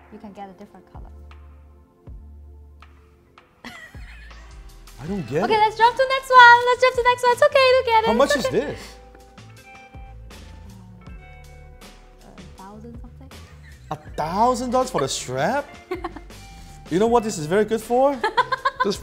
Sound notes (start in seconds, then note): 3.6 laughs; 13.4 laughs; 18.1 laughing